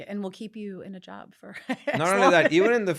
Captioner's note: laughs